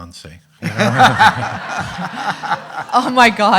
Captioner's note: everyone laughing